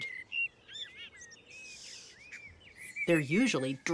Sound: birds singing

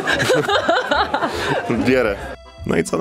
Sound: laughter

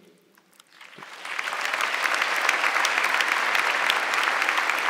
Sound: audience clapping

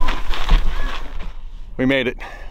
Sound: stones rustle

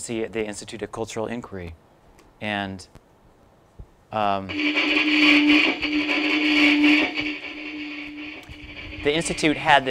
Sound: scratchy looped audio starts

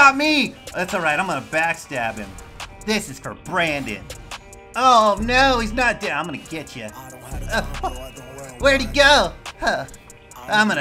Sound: more anime noises

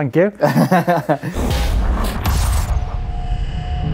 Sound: laughing

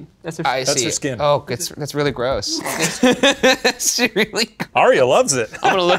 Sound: laughs

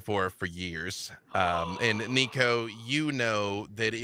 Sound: gasps

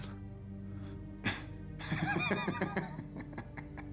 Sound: Luger laughs

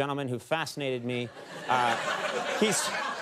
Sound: laughter

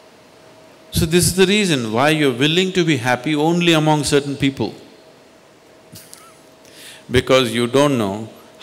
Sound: laughs

